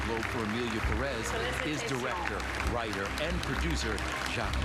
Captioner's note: applause